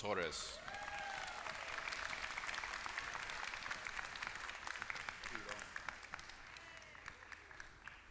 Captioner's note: applause